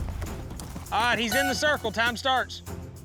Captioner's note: horn blows